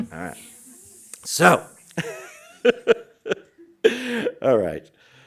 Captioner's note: hissing sound